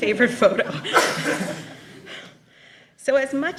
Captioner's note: laughter